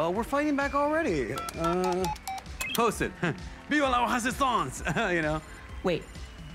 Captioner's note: chuckles